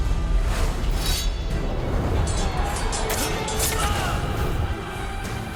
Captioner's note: swords clanging